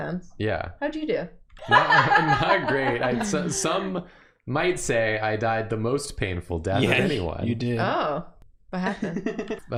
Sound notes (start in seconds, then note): 1.7 laughing